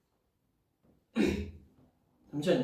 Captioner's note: clears throat